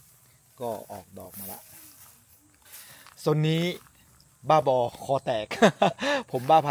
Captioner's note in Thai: เสียงหัวเราะ